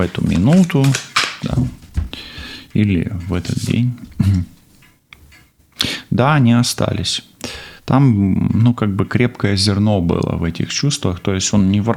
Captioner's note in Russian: откашливается